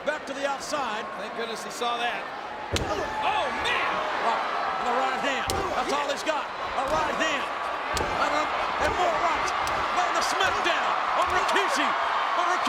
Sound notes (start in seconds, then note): 9.2 spectators cheering